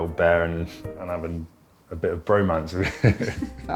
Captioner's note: laughing